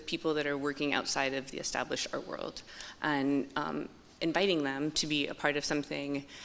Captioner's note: none